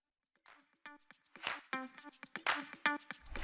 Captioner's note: applause